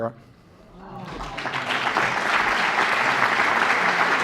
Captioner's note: applause